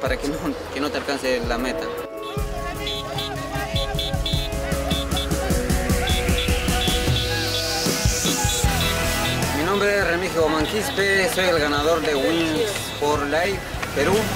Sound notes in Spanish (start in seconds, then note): 3.0 bocina del carro meta; 4.9 gritos de felicitaciones